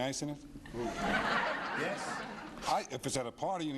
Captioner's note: laughing